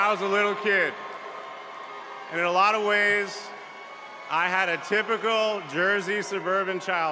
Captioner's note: cheers and applause